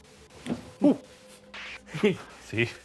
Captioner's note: laughs